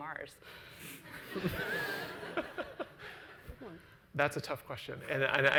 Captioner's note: laughs